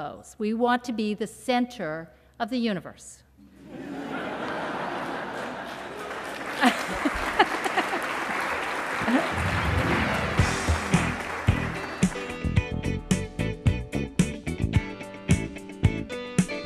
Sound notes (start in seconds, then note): 3.6 laughter, applause